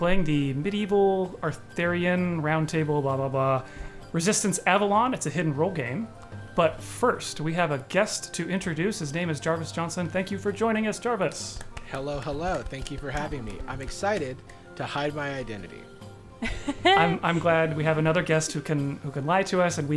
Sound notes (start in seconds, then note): 11.4 players clapping; 16.4 players laughing